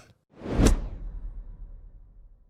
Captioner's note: air whooshing